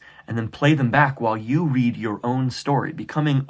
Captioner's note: none